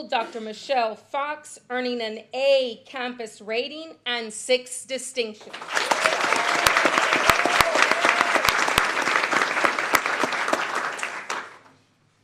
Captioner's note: applause